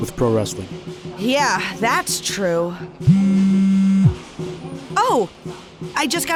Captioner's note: phone vibrates